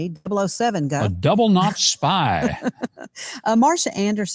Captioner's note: laughing